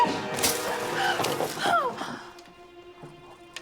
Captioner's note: dramatic music; grunting